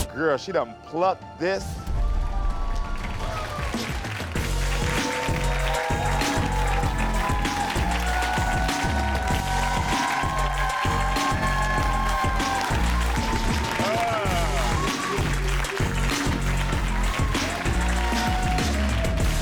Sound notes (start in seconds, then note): 2.0 audience clapping and cheering; 4.0 upbeat music; 5.5 audience clapping and cheering